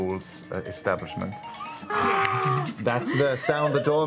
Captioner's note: phone trilling